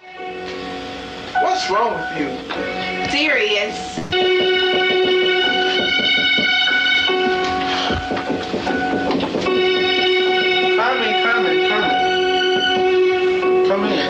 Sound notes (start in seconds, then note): 0.1 intense music; 4.0 knocking on the door